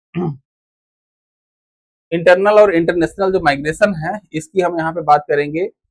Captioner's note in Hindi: गला साफ़ करने की आवाज़